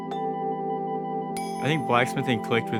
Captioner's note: soft music; metal clinking